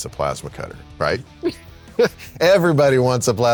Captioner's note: chuckling